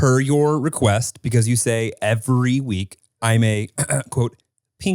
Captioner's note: clears throat